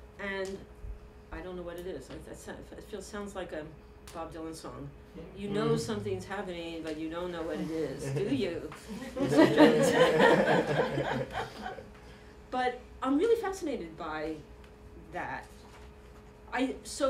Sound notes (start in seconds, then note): 8.8 laughter